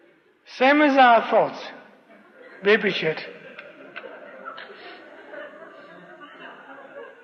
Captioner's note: laughter